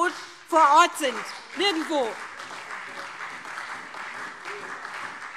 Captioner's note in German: Beifall SPD und vereinzelt Freie Demokraten